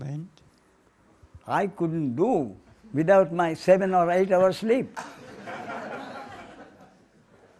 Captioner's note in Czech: smích